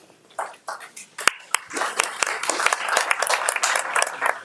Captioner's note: audience applauding